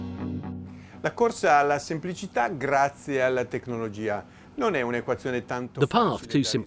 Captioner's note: speaking in foreign language